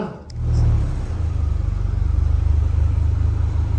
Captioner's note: car engine roaring